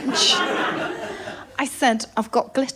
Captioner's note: laughter